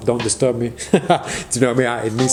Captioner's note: laughing